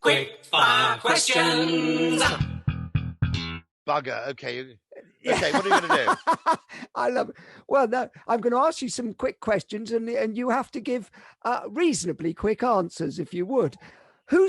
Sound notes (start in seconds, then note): 2.8 lively music; 5.2 laughing